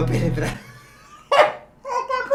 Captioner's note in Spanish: risas retrasaditas